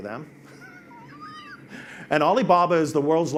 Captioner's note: laughs